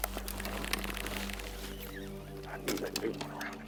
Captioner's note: pole reeling